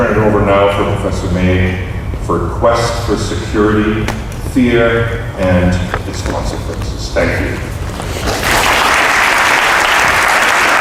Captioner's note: applause